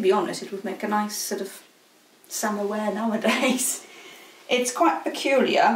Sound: chuckles

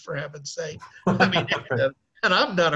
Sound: laughing

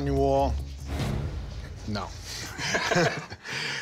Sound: both chuckle

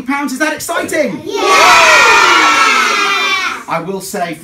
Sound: cheering

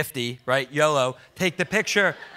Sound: audience laughs

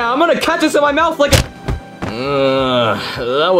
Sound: Dorito thuds; Mario grunts

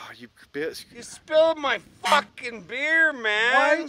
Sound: honk

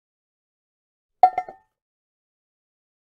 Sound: sound of iron pan

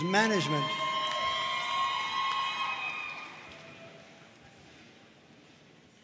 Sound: audience cheering and applauding

